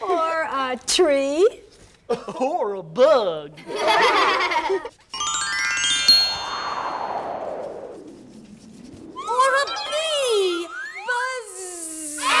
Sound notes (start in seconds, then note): 3.6 kids laughing; 5.1 chime and wind